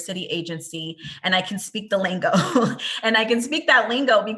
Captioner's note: laughs